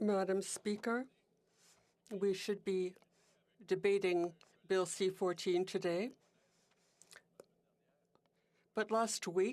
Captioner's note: speaking French